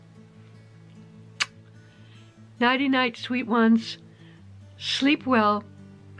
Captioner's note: blows kiss